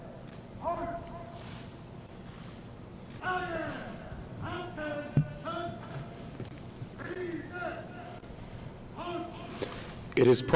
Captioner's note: shouted commands